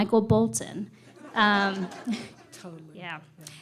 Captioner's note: laughter